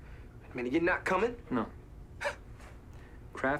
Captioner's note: scoffs